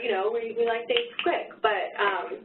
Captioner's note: fingers snapping